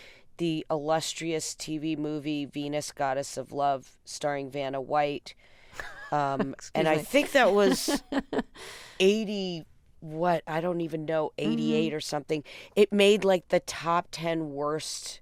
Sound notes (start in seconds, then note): 5.8 laughter